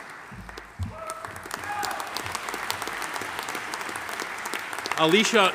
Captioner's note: audience applauding; audience member cheering